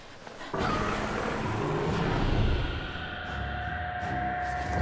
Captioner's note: dragon growls